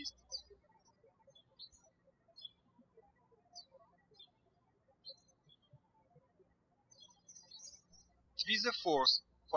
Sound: birds chirping

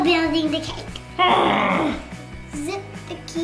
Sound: dad groans

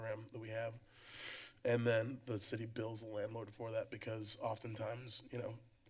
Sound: inhales

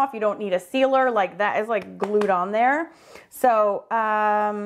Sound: hands clapping

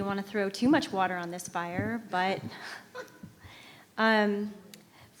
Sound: chuckles

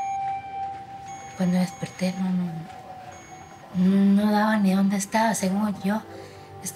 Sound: speaking Spanish

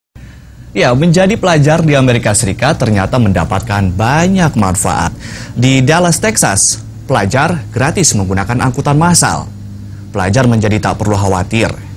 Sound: non-english speech

